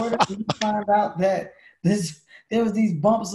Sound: Lewis laughs

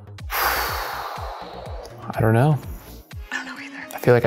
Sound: sighs

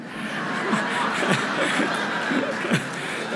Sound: laughter

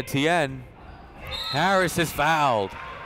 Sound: whistle blowing

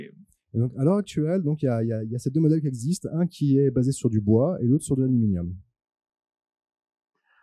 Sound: translating into french

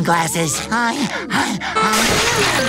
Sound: panting

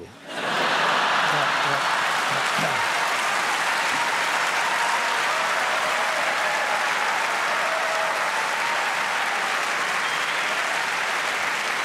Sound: laughter and Cheering

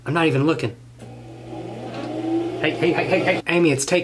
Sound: sewing machine runs

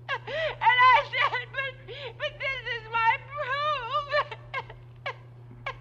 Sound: weeps

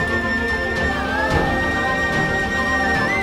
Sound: emotional vocalising

